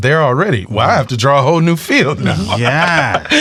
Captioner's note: laughs